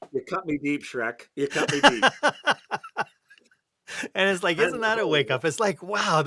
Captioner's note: laughter